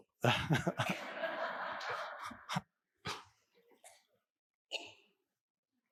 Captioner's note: audience and Eckhart laughing